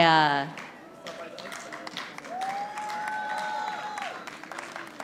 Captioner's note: audience applauding